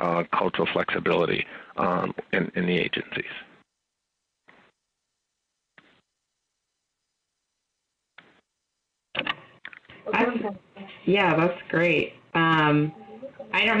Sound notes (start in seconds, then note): 9.9 background chatter